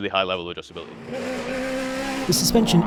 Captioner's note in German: Motor heult auf